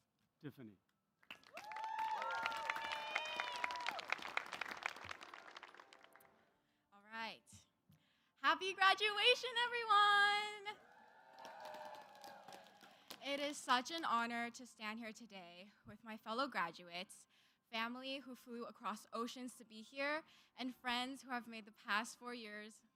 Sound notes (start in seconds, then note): 6.8 cheers; 13.8 cheers